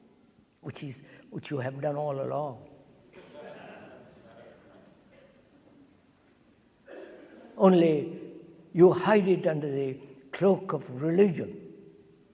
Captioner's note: laughter